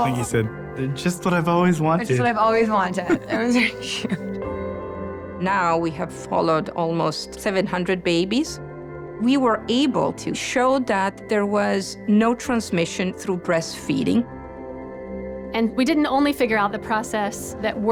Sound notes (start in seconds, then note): 2.4 laughs